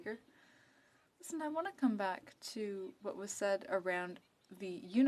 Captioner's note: speaking French